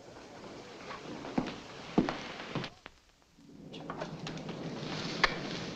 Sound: none

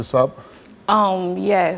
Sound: none

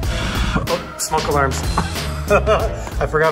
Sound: blowing; laughs

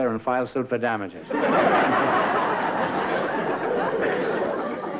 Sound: laughter

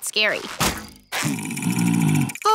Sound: growling

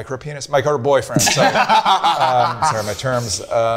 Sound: group laughing

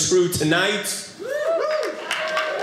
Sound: audience laughing

